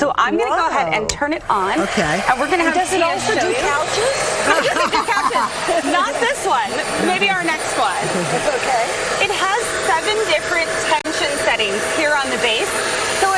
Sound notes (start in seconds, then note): 4.8 laughing